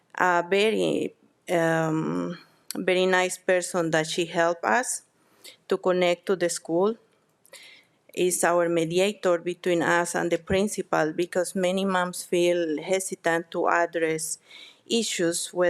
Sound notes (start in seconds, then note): none